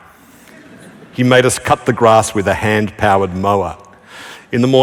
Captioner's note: laughter